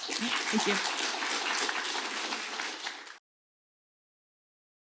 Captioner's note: applause